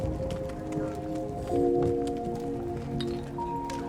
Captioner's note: fire crackling